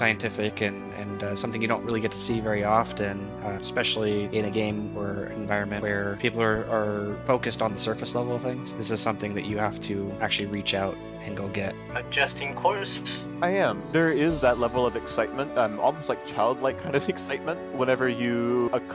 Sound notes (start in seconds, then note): 10.9 on the radio